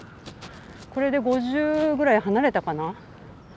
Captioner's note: the T-shirt is rubbing and there is noise